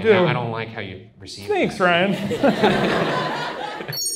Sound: audience laughs

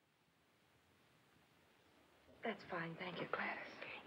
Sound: none

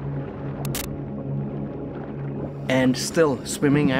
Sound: static crackles

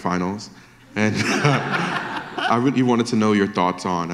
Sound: audience laughter

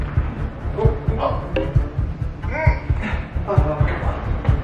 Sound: hesitant grunts; suspenseful strumming

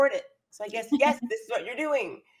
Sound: chuckles

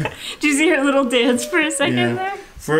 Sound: laughing

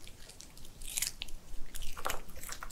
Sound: Crunch

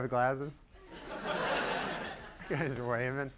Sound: giggles from audience

